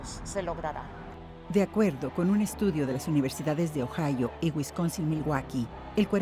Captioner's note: speaking in foreign language